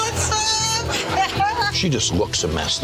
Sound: laughs

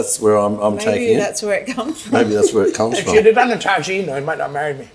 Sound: laughs

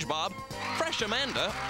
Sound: cheers and apapplause

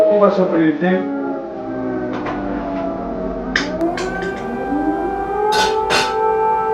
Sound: air raid alert

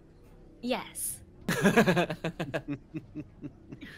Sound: multiple chuckling

